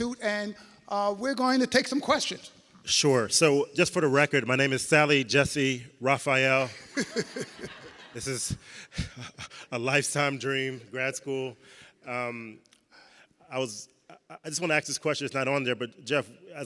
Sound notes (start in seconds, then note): 6.7 chuckles